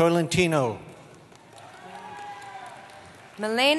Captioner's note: applause